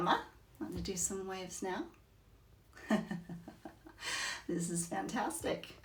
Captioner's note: chuckles